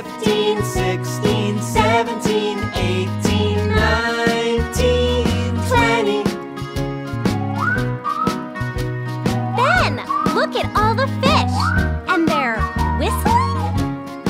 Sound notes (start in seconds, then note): 7.3 whistling